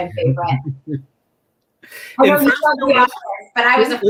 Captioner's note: laughter